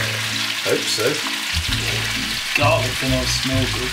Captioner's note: oil sizzling